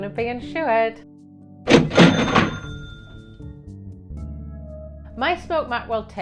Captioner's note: cash register dings